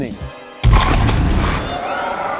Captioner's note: Terminator crashing; yelling